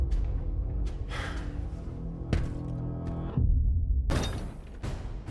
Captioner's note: sighs